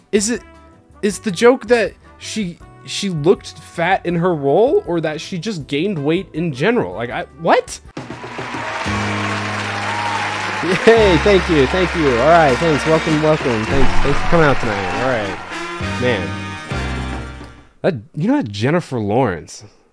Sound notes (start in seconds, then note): 9.1 applause